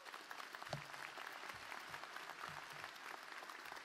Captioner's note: applause